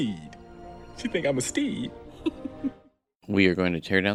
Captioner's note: laughter